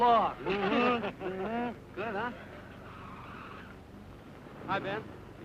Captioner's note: group laughing